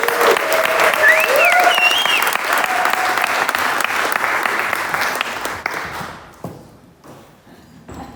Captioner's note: cheers & applause